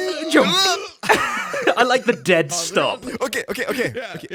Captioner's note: laughs